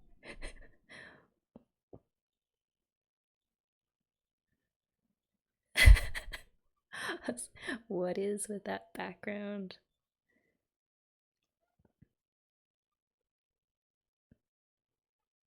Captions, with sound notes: [laughs] What is with that background?